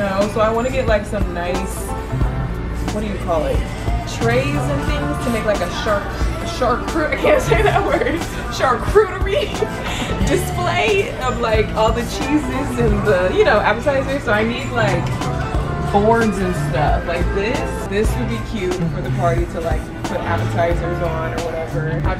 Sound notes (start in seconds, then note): 5.9 stammers; 9.7 laughs